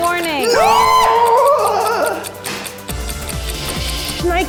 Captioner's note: both screaming; clock ticking